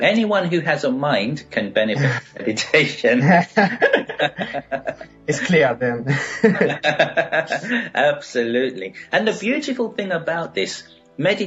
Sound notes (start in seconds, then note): 3.7 laughing